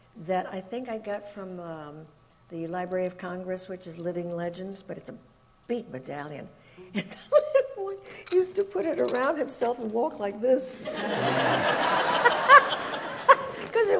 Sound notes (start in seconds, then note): 7.8 laughing; 10.8 audience laughs; 10.8 laughs